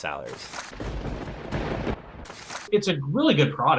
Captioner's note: thunder rumbling